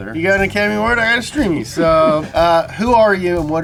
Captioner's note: laughs